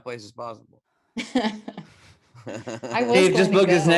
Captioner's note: laughs